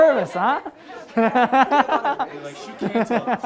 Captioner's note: laughs